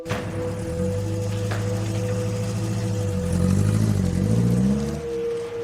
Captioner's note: engine noise